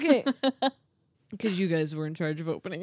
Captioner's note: laughing